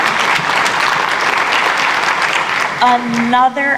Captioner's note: applause